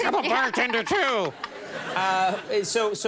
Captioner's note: Mila and crowd laugh